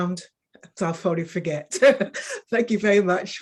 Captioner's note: woman chuckling